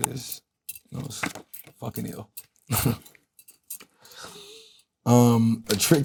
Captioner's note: chuckles